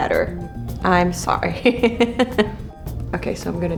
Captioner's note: laughs